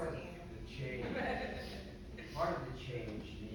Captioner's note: panelists laughing